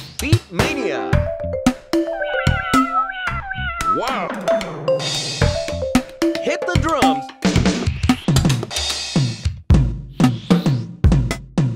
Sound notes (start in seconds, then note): 2.0 cats meowing